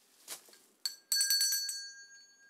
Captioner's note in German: Klingeln